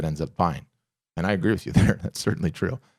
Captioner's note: chuckles